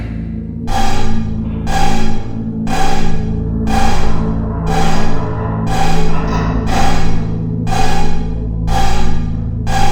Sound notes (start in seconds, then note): 0.6 alarm